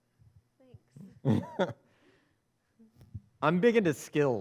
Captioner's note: chuckles